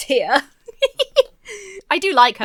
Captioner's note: laughs